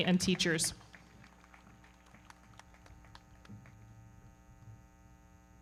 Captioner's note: everybody clapping